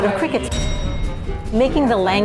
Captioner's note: bell dings